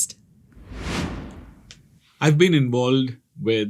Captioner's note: screen swishes